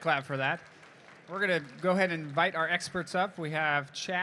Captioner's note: applause